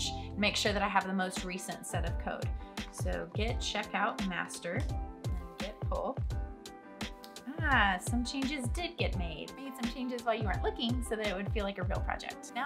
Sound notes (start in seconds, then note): none